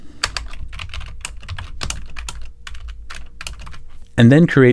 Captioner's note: keyboard clacking